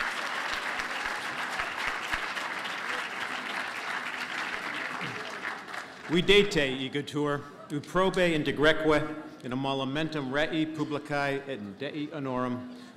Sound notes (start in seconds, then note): 6.7 speaking latin